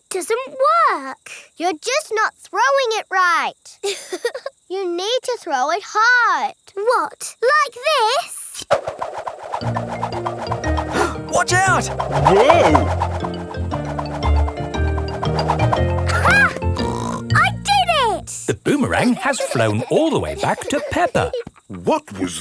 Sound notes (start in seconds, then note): 4.2 chuckles; 16.8 snorts